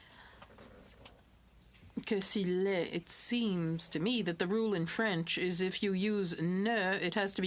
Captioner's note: speaking french